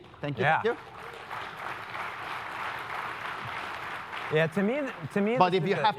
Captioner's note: applause